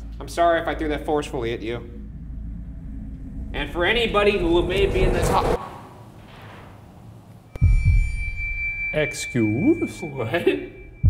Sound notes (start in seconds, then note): 6.0 clattering; 7.9 tense music